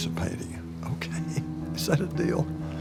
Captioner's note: laughs